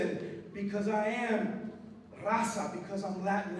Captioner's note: non-english speech